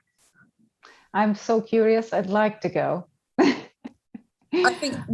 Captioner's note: chuckling